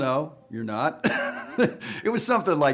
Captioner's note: laughs